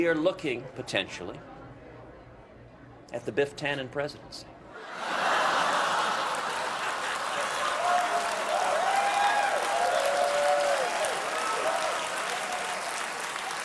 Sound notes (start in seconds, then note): 4.8 laughter; 4.9 applause